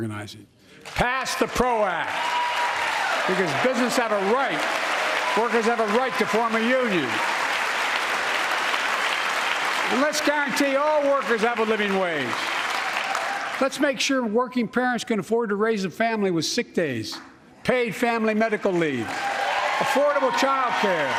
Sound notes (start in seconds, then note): 14.6 applause